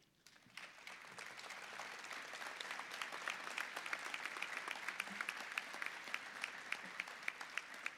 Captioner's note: applause